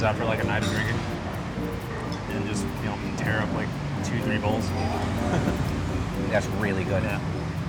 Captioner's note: laughing